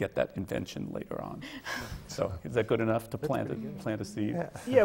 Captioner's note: laughs